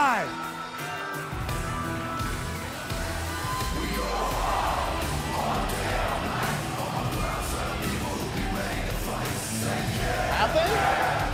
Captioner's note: crowd cheering